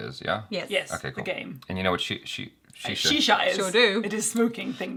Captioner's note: stutters